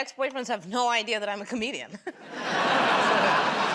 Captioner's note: laughter; chuckles